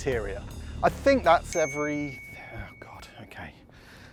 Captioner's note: phone pings